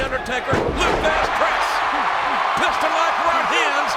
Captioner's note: presenter speaking faintly off mic